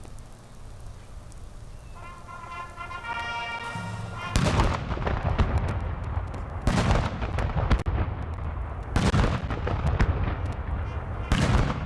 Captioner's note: music and gunfire